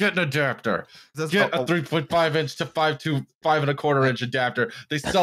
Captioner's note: stammers